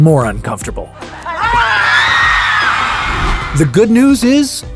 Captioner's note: screaming